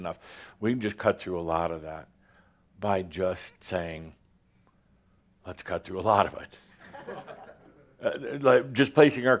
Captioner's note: some chuckles